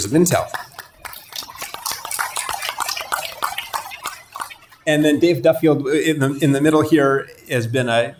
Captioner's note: applause